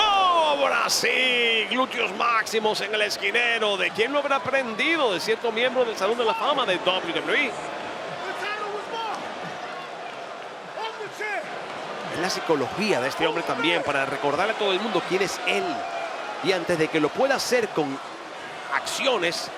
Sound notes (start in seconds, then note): 8.0 applause